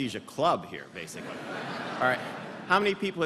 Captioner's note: laughter